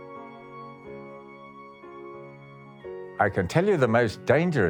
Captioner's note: in English